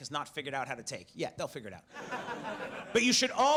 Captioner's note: audience laughs